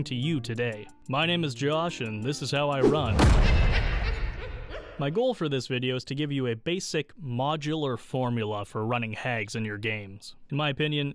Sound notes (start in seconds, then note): 2.8 bang, evil witch laugh sounds